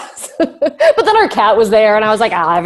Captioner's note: laughs